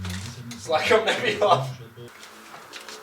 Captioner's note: laughing